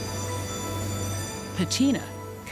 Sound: machines whirring; bright music

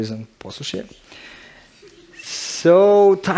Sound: chuckles in the audience

